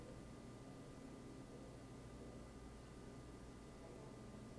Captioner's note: none